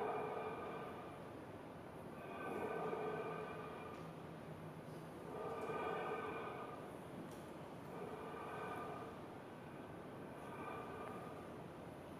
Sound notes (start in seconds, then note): 4.9 rhythmic breathing continues